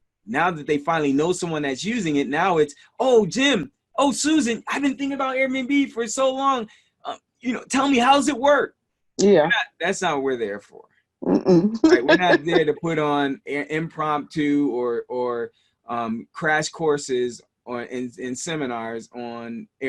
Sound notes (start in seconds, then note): 11.4 laughing